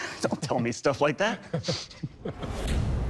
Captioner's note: laughs; laughter